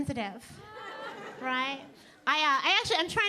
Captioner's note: audience laughing